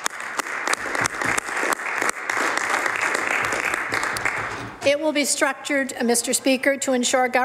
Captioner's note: some Applause